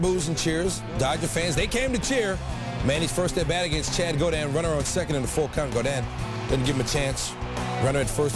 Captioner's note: boos and cheers